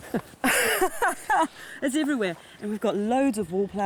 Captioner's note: laughing